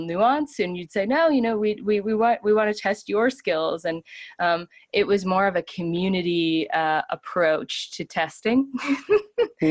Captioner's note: laughs